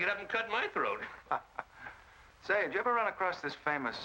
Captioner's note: chuckles